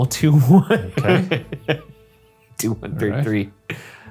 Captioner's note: laughing